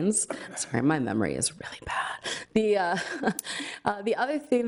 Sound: laughs

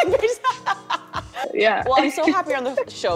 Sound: laughs

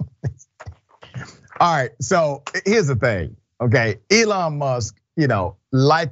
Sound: laugh

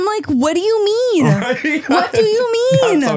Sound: laughing

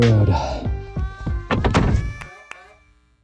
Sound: thud

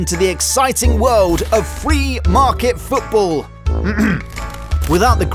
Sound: coughs

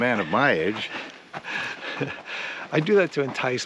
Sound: laughing

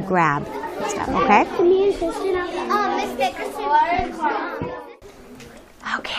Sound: whispers

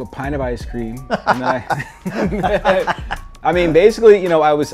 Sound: laughs

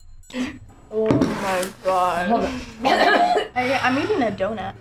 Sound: coughs

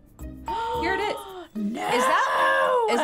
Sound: gasping

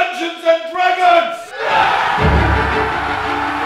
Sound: cheering

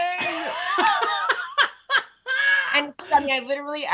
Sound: Brennan laughs

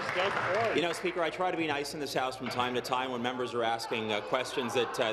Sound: applause

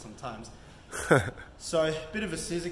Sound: cameraman laughs

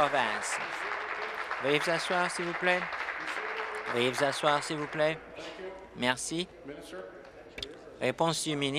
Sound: applause

